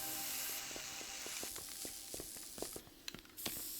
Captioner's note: spray cans hiss